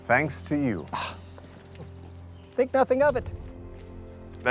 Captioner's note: scoffs